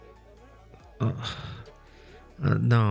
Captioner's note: he doubles over with a groan